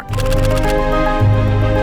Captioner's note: upbeat music; camera shutter clicks